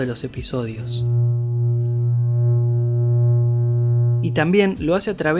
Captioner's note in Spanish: Zumbido de voltaje eléctrico